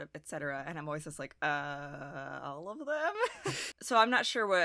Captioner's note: chuckles